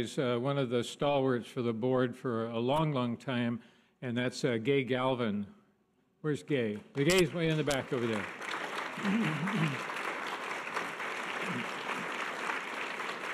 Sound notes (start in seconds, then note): 8.6 audience applause